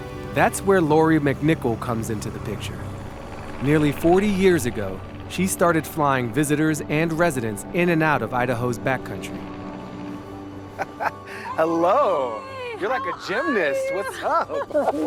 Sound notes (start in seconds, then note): 2.8 plane engine roaring; 10.7 laughs